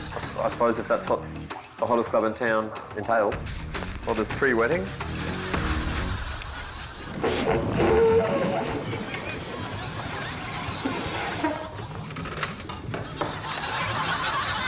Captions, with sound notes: I suppose if that's what the hottest club in town entails. Oh, there's pre-wetting? (THUNDER RUMBLES)